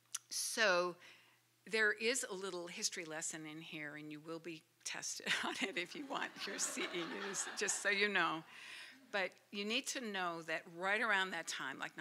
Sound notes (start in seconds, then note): 5.3 laughter